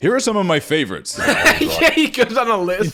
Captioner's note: laughing